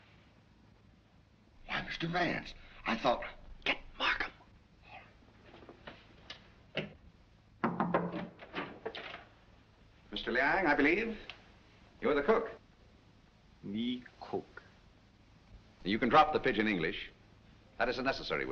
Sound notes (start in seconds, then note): 0.3 whispering; 7.6 knock at door